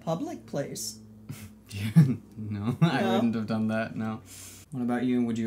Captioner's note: laughs